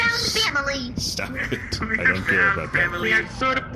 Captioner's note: half-laughing